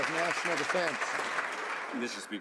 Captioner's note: some Applause